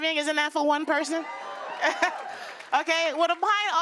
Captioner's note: cheers and applause